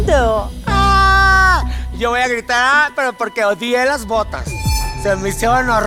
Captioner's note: gay squeal